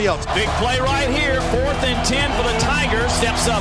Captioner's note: voiceover